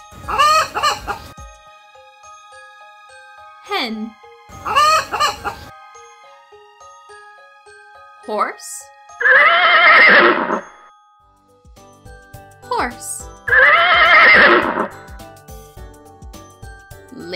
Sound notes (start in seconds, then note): 0.2 hen clucking; 4.6 hen clucking; 9.2 horse neighing; 13.4 horse neighing